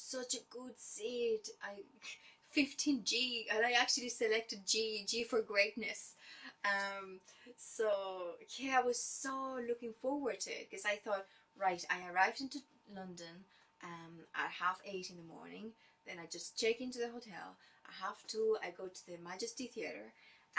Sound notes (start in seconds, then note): none